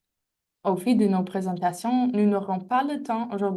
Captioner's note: speaking french